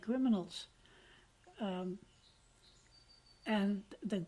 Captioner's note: pauses for 3 seconds